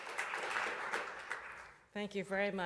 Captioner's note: applause